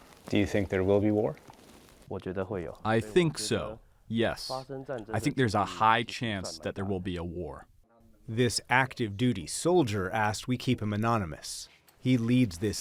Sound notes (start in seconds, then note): 3.2 through translator